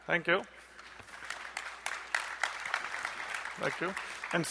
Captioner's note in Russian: аплодисменты